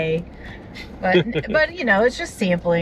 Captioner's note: laughs